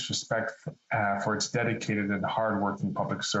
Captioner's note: speaking French